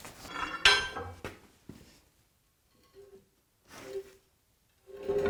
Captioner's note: metal clanging